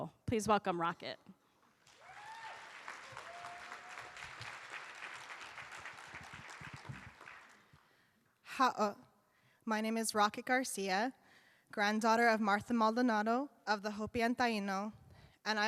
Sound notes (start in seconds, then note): 1.8 cheers and applause; 8.3 speaks indigenous language